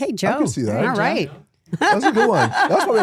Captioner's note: laughs